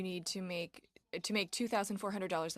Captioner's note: speaking in French